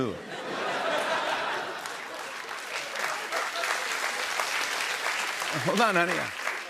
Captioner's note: laughter and applause